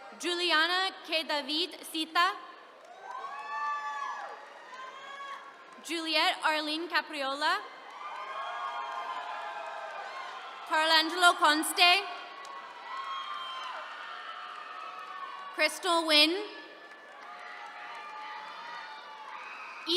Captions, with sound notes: Julianna Keadaviet Sitha. (attendees cheering) Juliet Arlene Capriola. (attendees cheering) Carlangelo Conste. (attendees cheering) Crystal Nguyen. (attendees cheering)